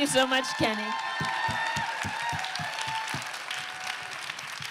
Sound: applause

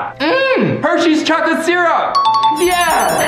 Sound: bell dings

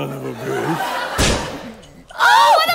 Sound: gunshot

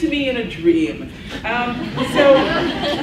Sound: laughs

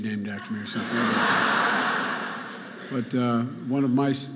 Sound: audience laughing

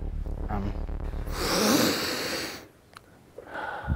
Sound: sniffing

